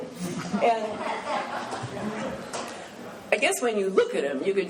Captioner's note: laughing